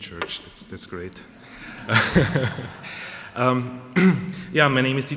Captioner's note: laughter